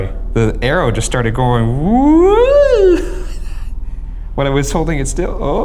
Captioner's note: laughing